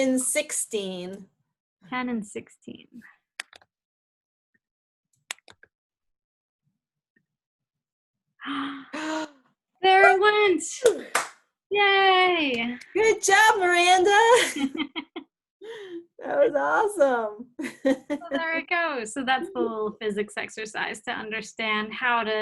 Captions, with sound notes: - 10 and 16. - 10 and 16. Huh, there it went. Yay. - Good job, Miranda. That was awesome. (laughs) - So there we go. - So that's the whole physics exercise to understand